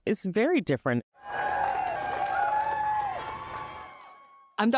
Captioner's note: cheering